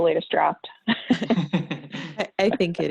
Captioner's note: laughing